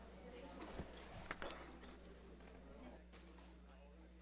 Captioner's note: crowd chatter